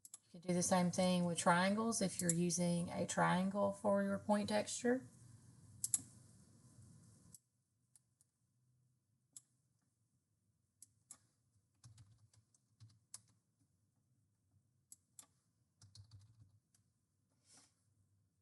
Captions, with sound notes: You can do the same thing with triangles if you're using a triangle for your point texture. [mouse clicking]